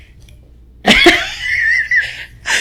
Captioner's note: laughing